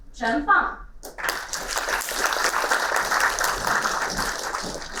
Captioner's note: applauding